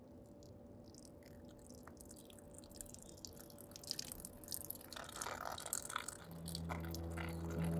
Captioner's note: trickling Sound